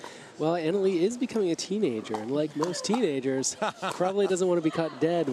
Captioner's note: laughs